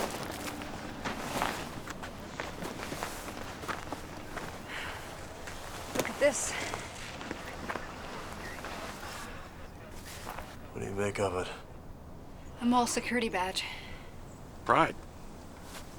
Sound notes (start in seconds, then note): 4.4 sighs